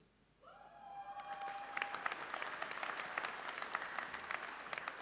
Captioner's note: audience cheers and applauds